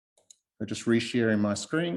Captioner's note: mouse clicking